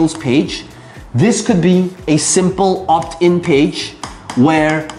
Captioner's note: tapping marker